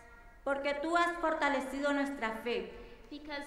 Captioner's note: speaking in foreign language